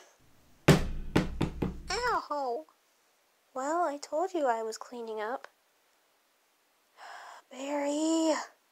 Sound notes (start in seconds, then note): 0.6 thud